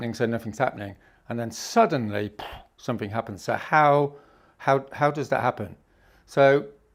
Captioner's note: aggressive exhale